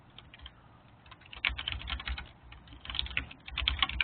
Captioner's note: keyboard clicking